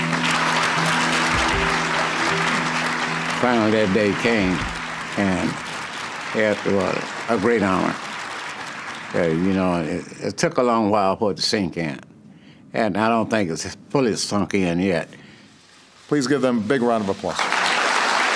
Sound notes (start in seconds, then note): 7.1 applause